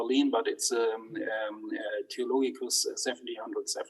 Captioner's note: speaks in foreign language